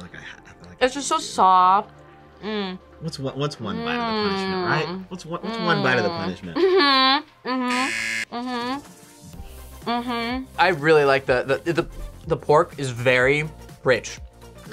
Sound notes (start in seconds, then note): 7.6 buzzer